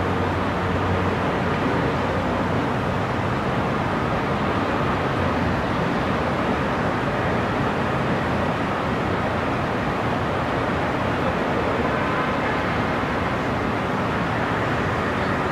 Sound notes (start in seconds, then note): 2.0 city sounds and distant cars